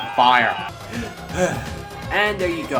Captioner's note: relieving Deep Breath